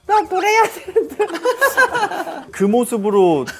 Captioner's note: laughing